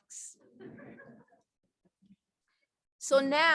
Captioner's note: laughter